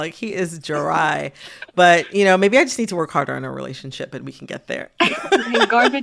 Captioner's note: laughter